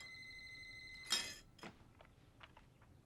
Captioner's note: glass break